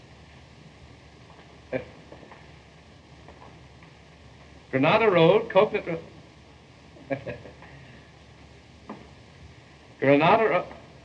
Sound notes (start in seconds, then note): 7.0 bob chuckling